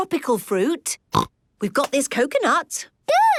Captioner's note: snorts